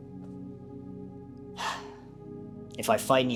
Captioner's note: sigh